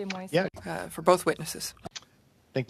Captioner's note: speaking French